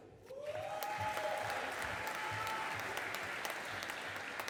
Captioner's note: audience applauding